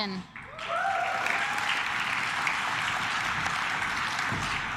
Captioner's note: claps